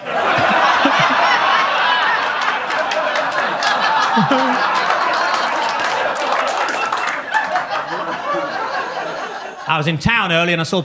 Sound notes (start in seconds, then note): 0.1 audience laughs; 2.4 audience claps; 2.4 audience laughs